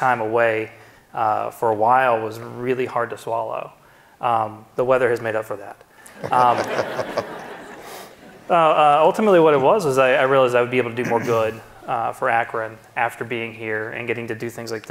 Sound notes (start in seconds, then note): 6.1 audience laughing